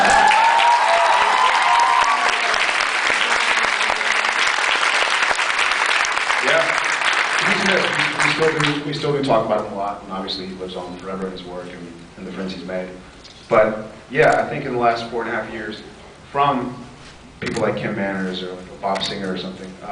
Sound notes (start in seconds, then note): 0.0 cheers, applauds; 8.3 applauds